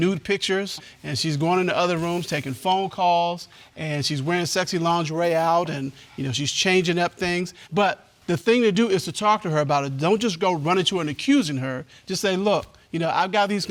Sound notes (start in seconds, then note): none